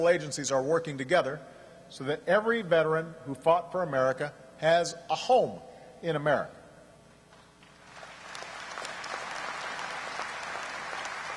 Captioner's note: applause